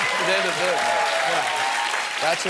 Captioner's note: cheering